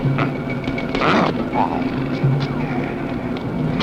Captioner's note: grunting